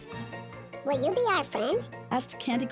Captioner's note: high-pitched Voice